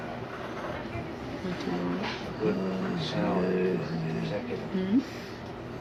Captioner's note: murmuring, Indistinct